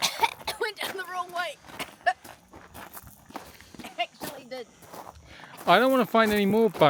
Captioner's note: cough